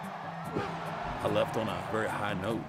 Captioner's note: crowd roaring